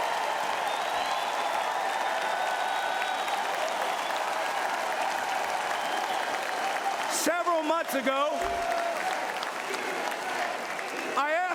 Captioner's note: cheering and Applause